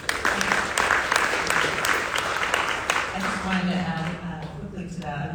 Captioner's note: audience applauding